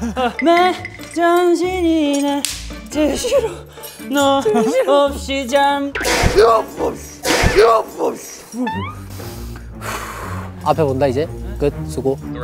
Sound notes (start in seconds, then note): 8.5 deep sigh